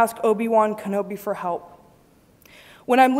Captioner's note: none